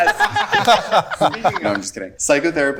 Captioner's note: group laughing